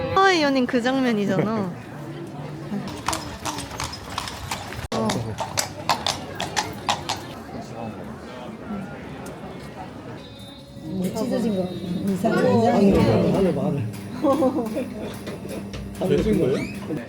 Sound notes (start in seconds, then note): 2.2 horse carriage sounds 1; 4.9 horse carriage sounds 2